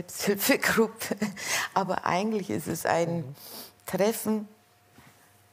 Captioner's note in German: kichert